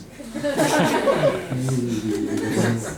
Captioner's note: audience laughs